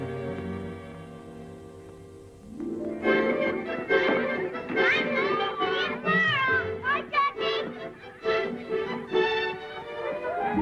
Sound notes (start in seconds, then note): 2.4 cheerful music; 3.2 children yelling